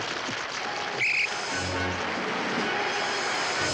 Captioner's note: whistle shrills; grand orchestral music